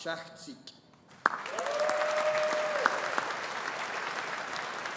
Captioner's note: audience applauding